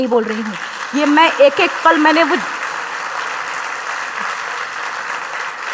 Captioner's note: applause